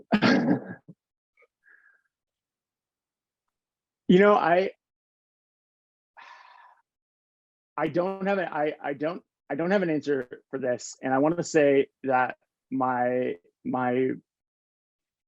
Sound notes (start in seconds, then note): 0.1 chuckling; 6.2 sighing